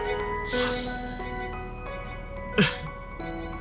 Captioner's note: sniffling